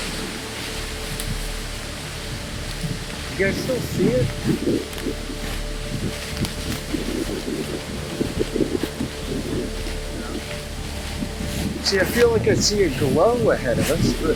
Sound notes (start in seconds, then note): 0.3 wind gusting; 5.2 mysterious music; 5.2 wind gusting